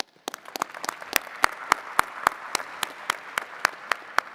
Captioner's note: attendees clapping